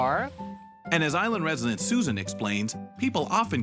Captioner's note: voiceover